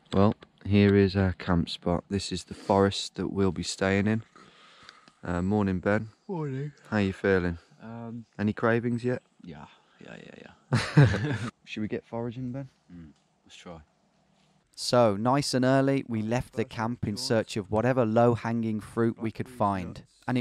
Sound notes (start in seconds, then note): 10.7 chuckling